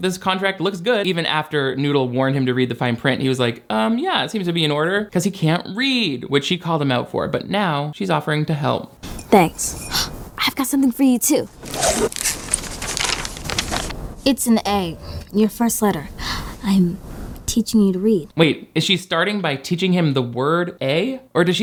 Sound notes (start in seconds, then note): 11.4 paper rustles; 11.5 bag whooshes